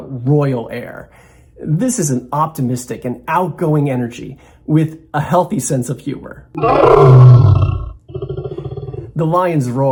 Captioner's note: roar